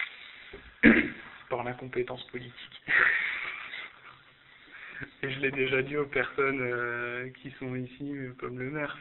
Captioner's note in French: rire